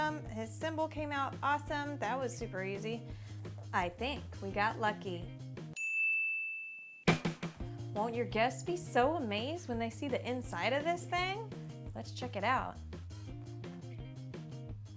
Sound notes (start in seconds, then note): 5.7 ding